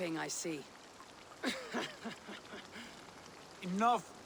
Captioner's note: laughs